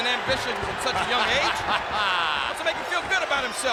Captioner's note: Vince laughs